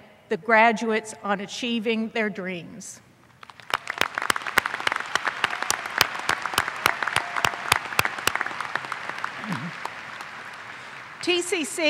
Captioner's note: applause